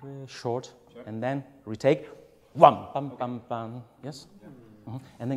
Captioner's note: hums